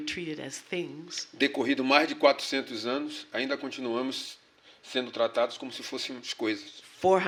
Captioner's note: speaking portuguese